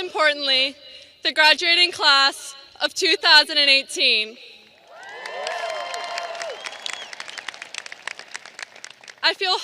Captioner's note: audience applauding